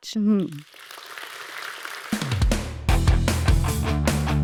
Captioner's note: audience applauding; upbeat music